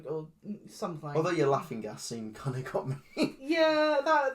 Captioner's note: laughs